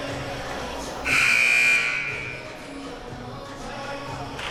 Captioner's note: buzzer sounding